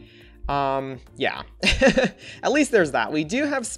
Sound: laughs

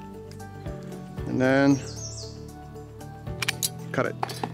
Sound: pliers snap metal

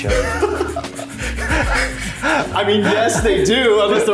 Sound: laughs

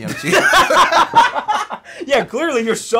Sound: both laughing

